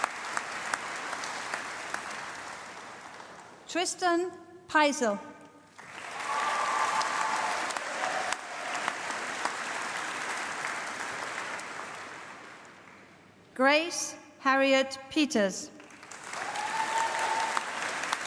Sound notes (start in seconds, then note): 5.7 applause